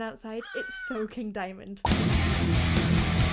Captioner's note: raven cawing; low rhythmic music